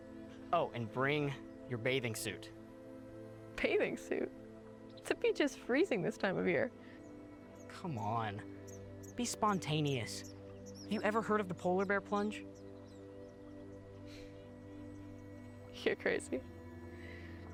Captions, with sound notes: Oh, and bring your bathing suit. - Bathing suit? The beach is freezing this time of year. - Come on. Be spontaneous. Have you ever heard of the polar bear plunge? - (chuckles) You're crazy.